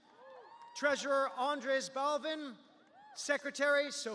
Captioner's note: cheers